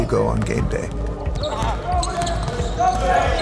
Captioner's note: ball thumps